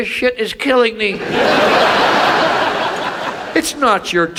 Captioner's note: audience laughs